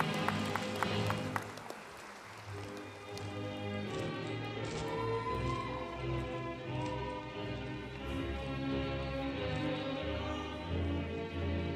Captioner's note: applause